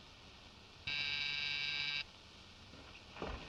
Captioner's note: door buzzer sounds